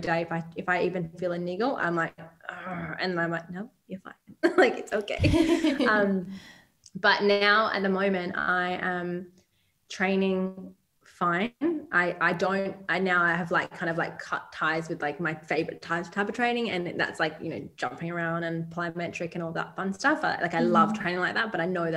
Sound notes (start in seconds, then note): 5.1 giggles